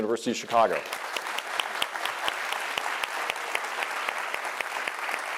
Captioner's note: audience applauds